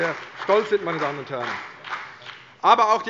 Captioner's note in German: Beifall CDU und BÜNDNIS 90/DIE GRÜNEN